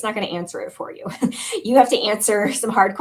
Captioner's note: laughter